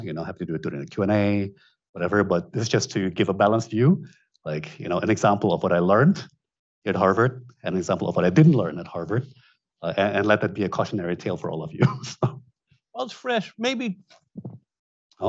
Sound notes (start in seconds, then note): 11.6 chuckles; 14.3 mic thunks